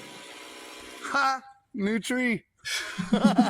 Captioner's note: laugh; laughs